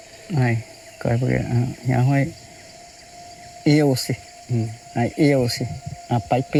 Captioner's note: speaking in foreign language